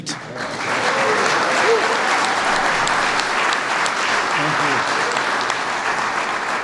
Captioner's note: applause